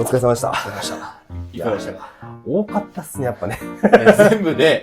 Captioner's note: laughs